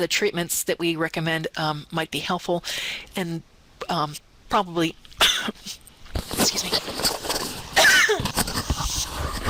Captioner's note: coughing